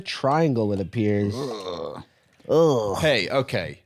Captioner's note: cringing